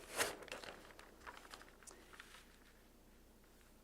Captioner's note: rustling